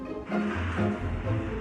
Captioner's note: electric whirring